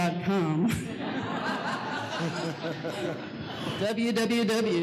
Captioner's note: laughing